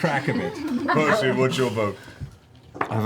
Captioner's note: laughter